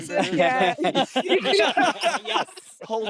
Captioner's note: all laughing